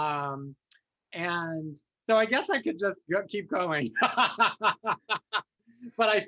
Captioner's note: laughs